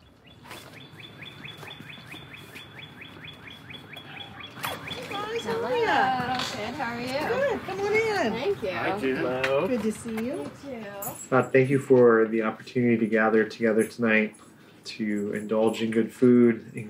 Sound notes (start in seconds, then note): 0.3 footsteps crunching; 0.5 birds chirping